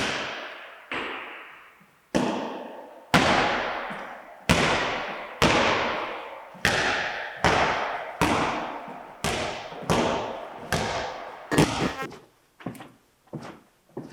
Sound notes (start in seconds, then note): 3.6 ball bouncing; 11.5 static crackles